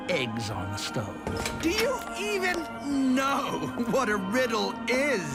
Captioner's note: chuckling